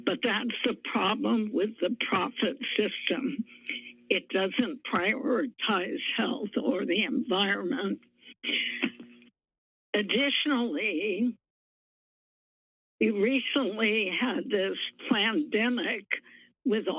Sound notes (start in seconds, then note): 8.4 pause